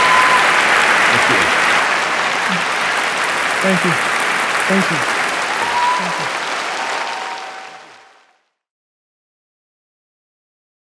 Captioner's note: applause